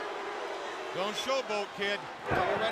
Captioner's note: crowd cheering